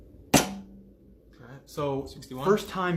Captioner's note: pops